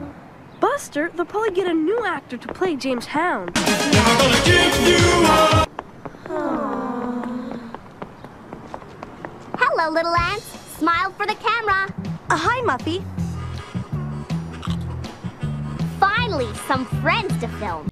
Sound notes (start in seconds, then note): 6.2 all sighing